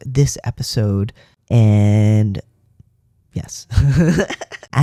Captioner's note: laugh